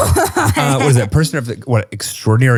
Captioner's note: laughs